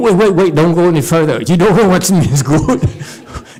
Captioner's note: laughs